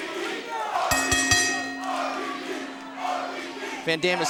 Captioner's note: bell dinging